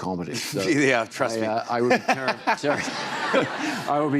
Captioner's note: laughs